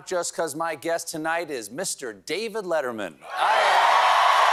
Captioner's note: cheers and applause